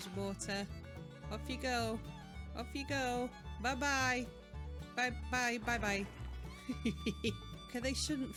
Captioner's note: laughing